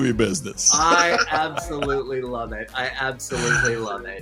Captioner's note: laughs